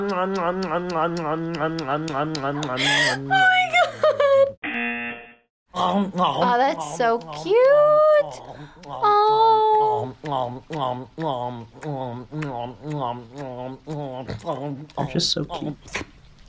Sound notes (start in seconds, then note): 0.0 laughs; 0.0 voice-over; 4.6 buzzer; 9.3 voice-over